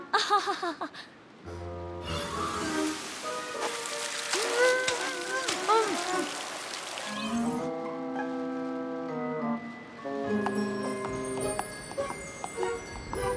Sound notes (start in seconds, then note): 0.2 chuckles nervously; 4.7 grunting; 10.6 twinkle! twinkle!